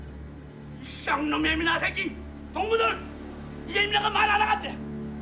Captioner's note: Korean